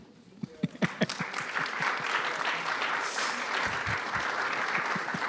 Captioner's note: audience applauds